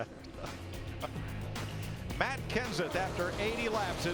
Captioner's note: laughter